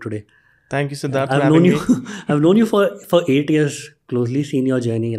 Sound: chuckles

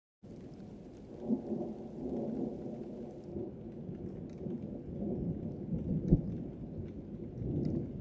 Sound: rolling thunder

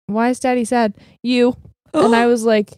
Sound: gasps

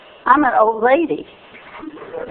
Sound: laughter

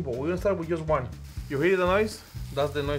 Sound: pan sizzles

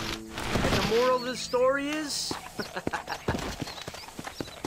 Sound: laughs

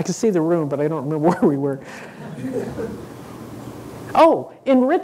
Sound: laughing

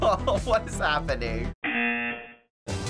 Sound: buzzer

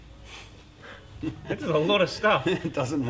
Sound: laughs

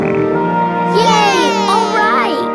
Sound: cheering

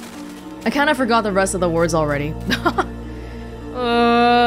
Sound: chuckles

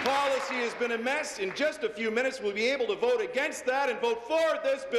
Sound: applause

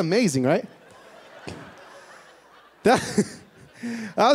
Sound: laughter

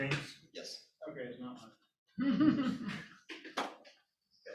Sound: laughter

